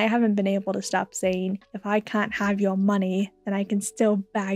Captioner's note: British accent